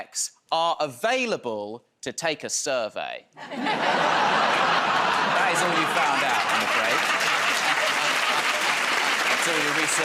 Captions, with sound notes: Couples who schedule sex are available to take a survey... [ Laughter ] ...I recently found out, I'm afraid...